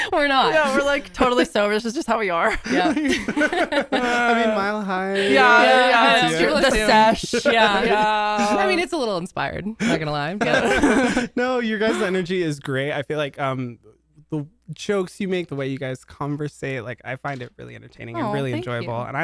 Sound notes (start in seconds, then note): 2.5 everyone laughs; 10.3 laugh